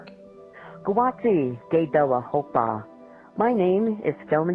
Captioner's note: non-english